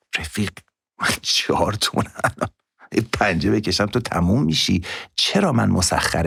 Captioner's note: laughs